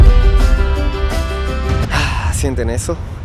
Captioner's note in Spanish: suspira